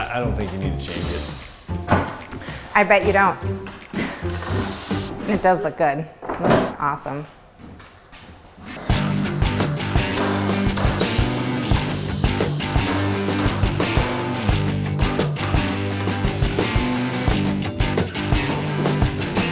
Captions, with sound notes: - I don't think you need to change it. - I bet you don't. It does look good. Looks awesome. (spraying) (loud hammering) (rock music)